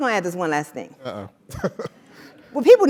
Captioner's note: laugh